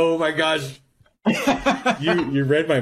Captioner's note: laughs